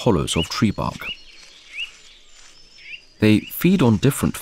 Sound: sounds of nature

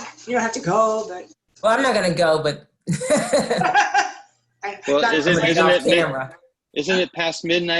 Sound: laughter

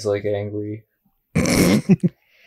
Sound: snickers

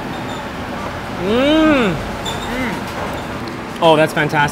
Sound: slurps noodles; groans in delight

